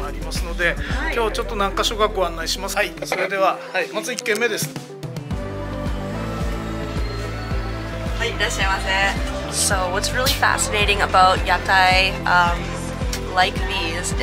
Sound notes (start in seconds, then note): 4.9 upbeat music; 8.2 proprietor speaking in foreign language